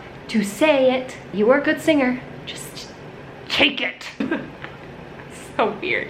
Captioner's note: laughs